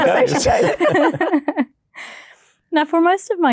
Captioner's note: laughing